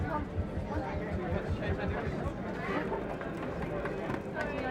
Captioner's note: people chattering